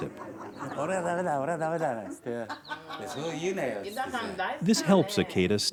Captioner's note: speaking foreign language